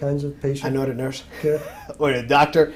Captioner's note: laugh